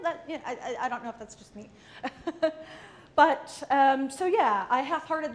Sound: laughs

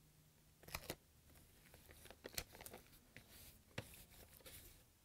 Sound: tape crinkling

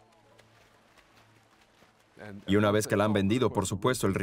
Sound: water flapping

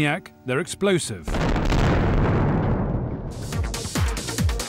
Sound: boom!

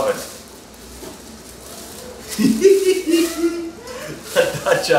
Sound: talking in the background; laughs

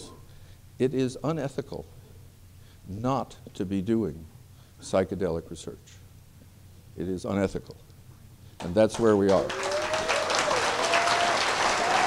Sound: applause

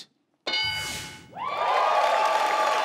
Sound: electronic dinging; audience cheering

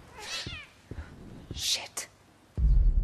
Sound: cat screeching

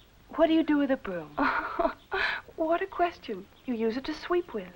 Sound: laughing

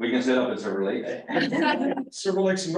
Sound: laughter

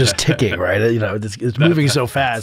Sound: chuckle

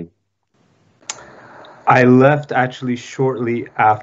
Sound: speaking foreign language

